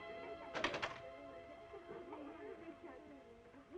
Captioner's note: children Laughing - Chattering